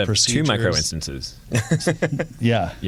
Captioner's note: laughter